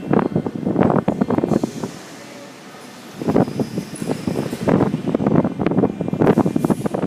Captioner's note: closing doors